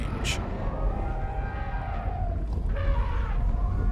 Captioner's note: mammoths trumpet